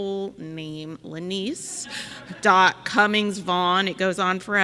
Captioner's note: audience laughing